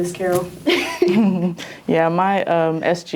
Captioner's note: laughs